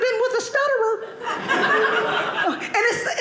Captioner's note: audience laughing